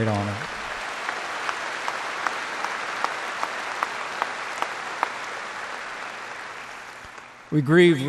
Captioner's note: applause